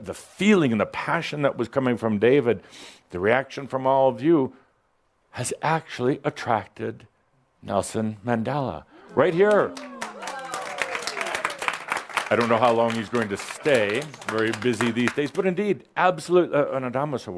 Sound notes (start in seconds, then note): 9.2 some applause